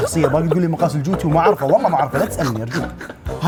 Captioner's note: all laugh